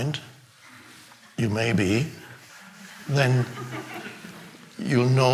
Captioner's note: audience laughing